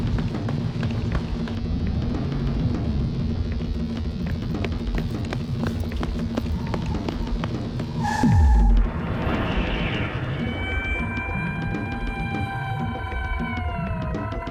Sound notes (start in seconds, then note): 8.5 brakes screech; 10.3 ambulance siren wails